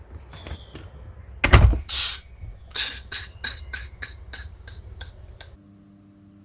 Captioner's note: door shuts. Sound of weeping